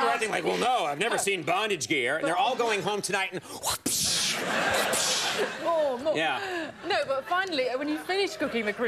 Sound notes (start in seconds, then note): 3.7 Conan makes whipping sounds; 4.1 audience laughs